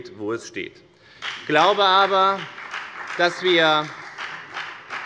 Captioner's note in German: Beifall bei der FDP und bei Abgeordneten der CDU